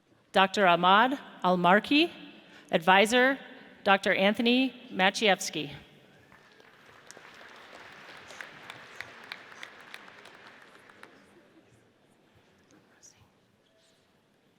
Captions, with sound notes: Dr. Ahmad Almarkhi. Advisor, Dr. Anothony Maciejewski. (audience applauds)